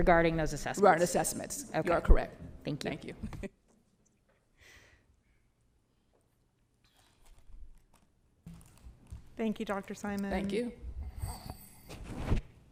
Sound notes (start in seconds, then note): 5.4 chuckles